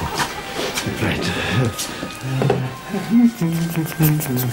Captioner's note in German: Brummen